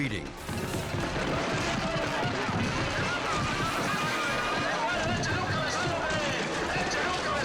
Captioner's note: people shouting in foreign language